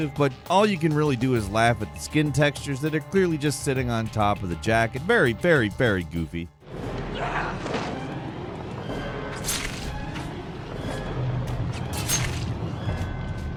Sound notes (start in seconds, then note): 6.6 tense dramatic music; 7.5 creature grunting; 9.4 sword whooshing